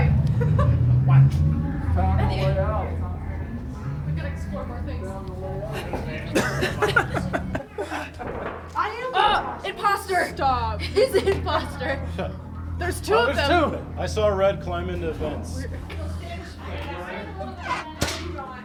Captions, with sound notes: We gotta explore more things. Imposter, he's the imposter. There's two of them. - [Deep Voice] I saw red climb into vents.